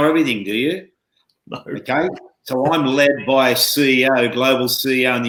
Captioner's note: chuckling